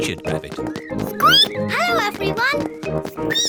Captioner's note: squeaks; squeak